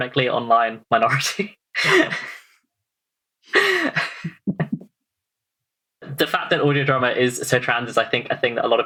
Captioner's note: laughs